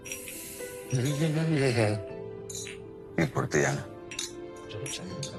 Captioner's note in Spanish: Tintineo de copas